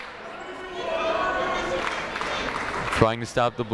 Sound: people shouting in the crowd

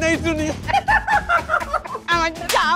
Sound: laughter

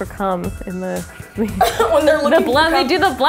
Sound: laughs

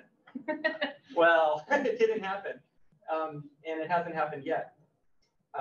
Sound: laughs

